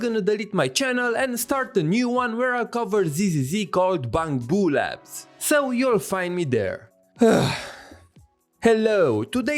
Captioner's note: sigh